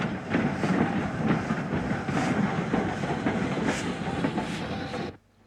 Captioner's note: train passes